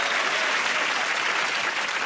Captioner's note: cheers and applause